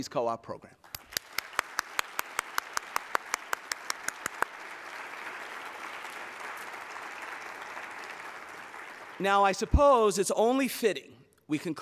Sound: applause

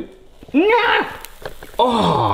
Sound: screams excitedly

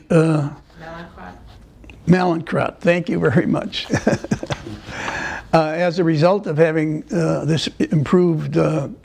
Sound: laughter

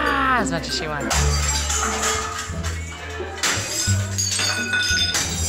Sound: glasses shattering

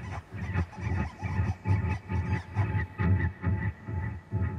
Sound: bird calling

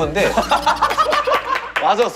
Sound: hahaha

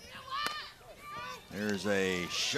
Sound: bat hits ball

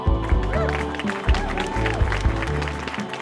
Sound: applause

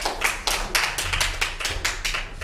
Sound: applause

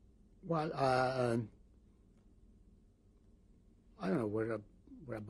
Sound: pauses for 3 seconds

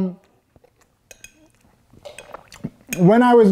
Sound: slurp

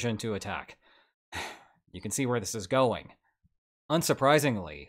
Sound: sigh

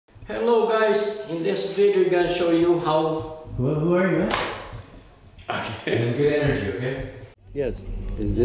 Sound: laughs

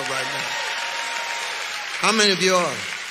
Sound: audience clapping

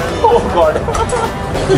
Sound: laughter

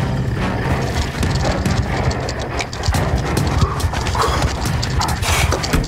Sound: scorpion growls hungrily

